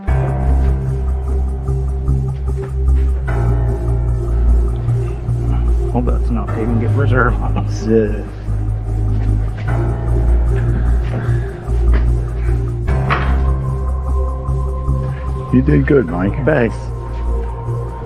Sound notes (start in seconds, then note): 0.2 suspenseful music plays; 6.3 indistinct chatter